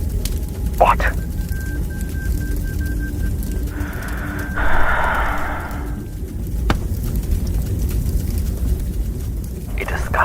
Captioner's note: sigh; foreign language